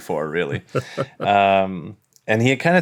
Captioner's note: laughs